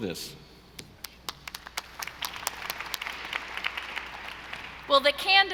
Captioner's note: audience applauding